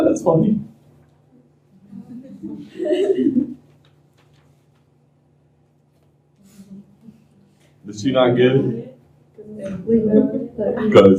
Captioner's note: laughter